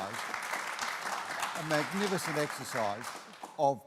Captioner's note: applause